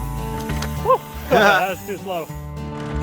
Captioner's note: laughs